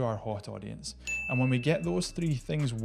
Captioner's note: bell dings